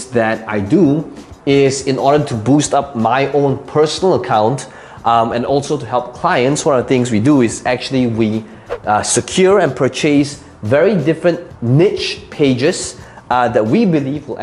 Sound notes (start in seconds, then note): 8.5 air whooshing